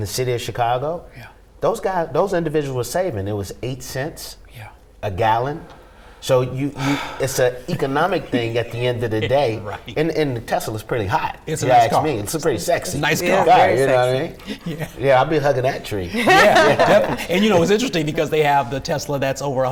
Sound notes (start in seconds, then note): 7.5 chuckles; 16.0 laughing